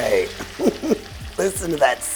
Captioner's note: pan sizzling; chuckles